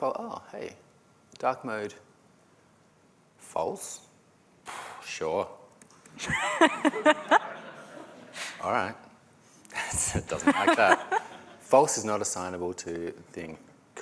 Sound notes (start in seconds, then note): 6.2 laughter